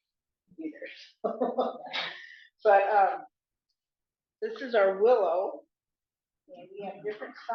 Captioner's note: laughs